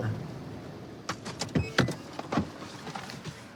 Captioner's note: beeping